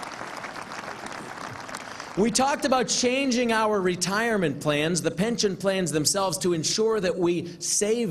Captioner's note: applause